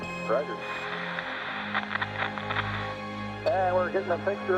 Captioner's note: static crackles